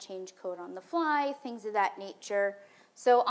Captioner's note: none